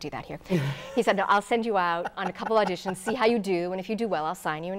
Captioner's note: laughing